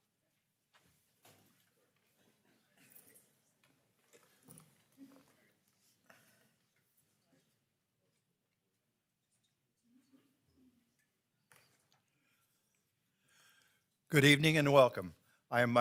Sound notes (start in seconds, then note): 1.1 people chattering distantly